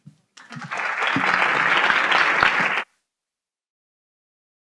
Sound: audience applauding

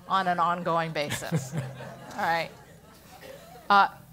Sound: laugh

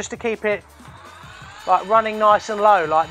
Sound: drill whirring gently

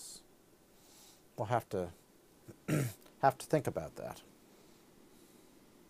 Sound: clears his throat

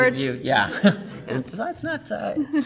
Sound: laughs

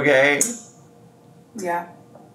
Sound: smacks lips

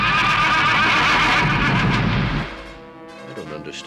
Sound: whinnies loudly; rumbling, banging sounds

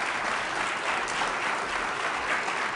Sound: applause

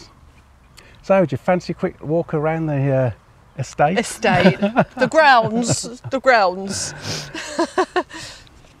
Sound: laughing

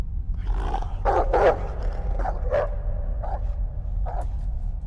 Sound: dog barking

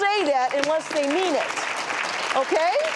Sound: audience claps

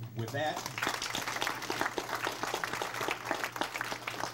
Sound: crowd applauds

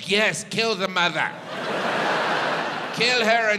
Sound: audience laughs

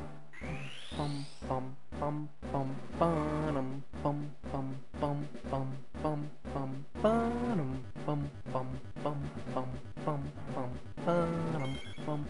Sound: humming to evolution music

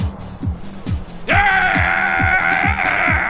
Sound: rage scream

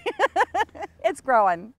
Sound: laughs

